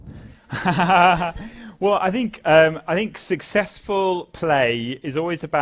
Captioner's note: laugh